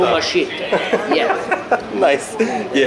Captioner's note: laughing